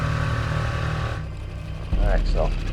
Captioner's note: boat engine revs